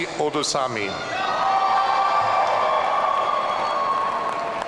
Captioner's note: audience cheering